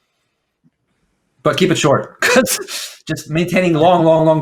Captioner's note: laughs